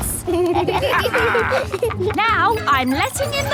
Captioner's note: kids and captain dog laughing